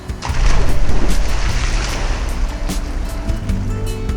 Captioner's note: water splashing